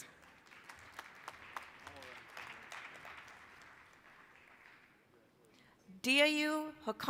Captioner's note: applause